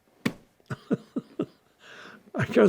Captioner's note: laughing